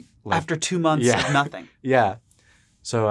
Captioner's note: laughs